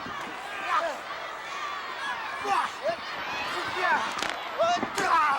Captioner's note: both grunting